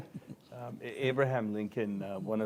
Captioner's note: laughter